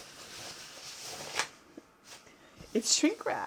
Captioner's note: shrink wrap rustling